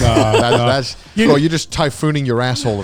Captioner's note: laughs